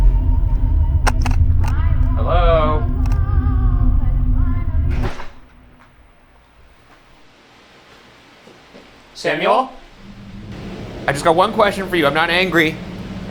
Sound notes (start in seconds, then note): 4.6 door clicking; 8.2 mysterious knocking